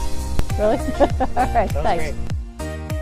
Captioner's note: laughs